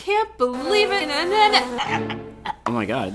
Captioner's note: gurgling sound